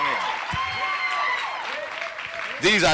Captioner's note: cheering